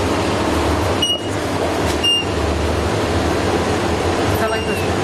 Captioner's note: device beeping